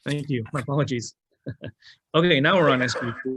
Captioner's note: chuckles